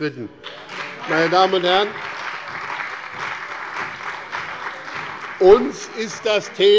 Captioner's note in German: Beifall bei dem BÜNDNIS 90/DIE GRÜNEN und der CDU